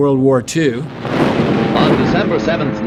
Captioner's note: loud explosions